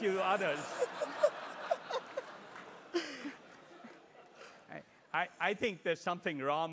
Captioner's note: laugh